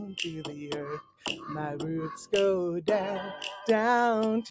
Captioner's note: raven caws